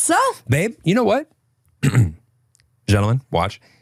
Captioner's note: clears throat